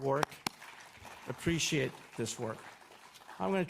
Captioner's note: audience applauds